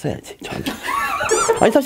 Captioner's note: haha